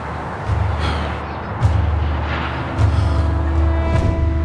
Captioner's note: light dramatic music; Michael sighs